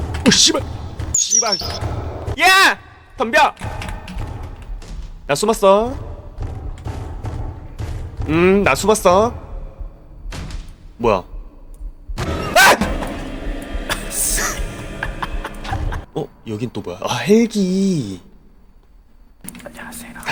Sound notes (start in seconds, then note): 14.4 laughter